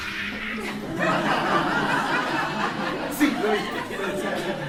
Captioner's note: laughter